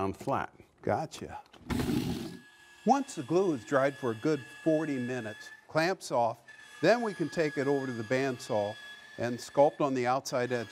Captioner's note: saw whirring